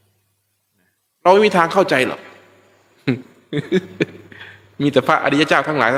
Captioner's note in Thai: เสียงหัวเราะ